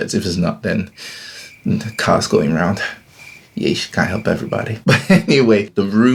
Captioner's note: laughs